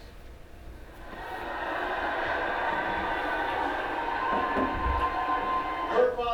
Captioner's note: audience loud vocal reaction